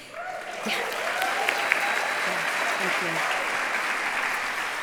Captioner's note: applause